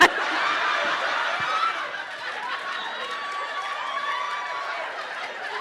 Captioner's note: crowd laughing and cheering